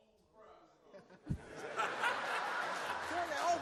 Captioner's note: all laughs